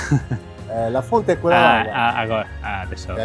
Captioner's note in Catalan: en italià